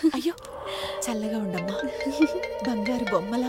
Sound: phone rings

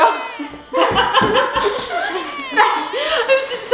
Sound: laughs

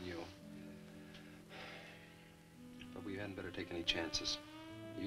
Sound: sighs

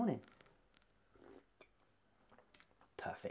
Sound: sips

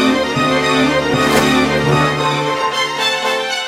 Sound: water splash sound

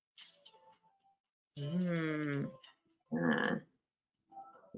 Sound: moans

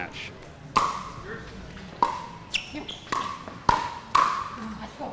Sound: ball bouncing

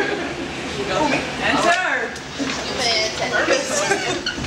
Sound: chatter

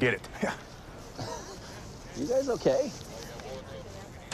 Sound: laughs

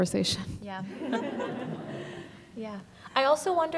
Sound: audience laughing

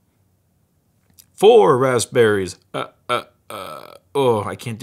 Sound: laughs like The Count

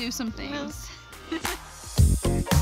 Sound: laughing; lively music

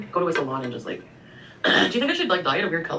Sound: coughs

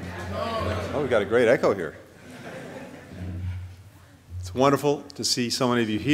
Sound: laughter

